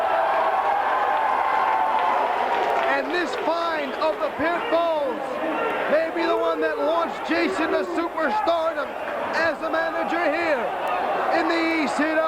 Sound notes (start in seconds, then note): 2.6 crowd chatter